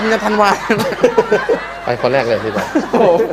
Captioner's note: laughing